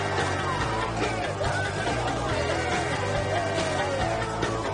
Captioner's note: actors yelling and cheering